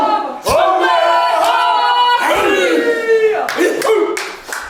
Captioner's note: applause